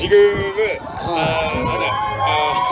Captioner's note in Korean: 함성